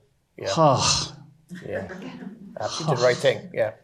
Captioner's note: crowd chuckling; relieved sighing